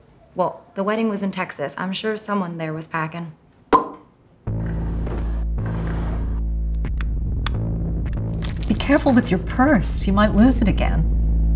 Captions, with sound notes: - Well, the wedding was in Texas. I'm sure someone there was packing. (Joan's lips popping) (tense music) - Be careful with your purse, you might lose it again.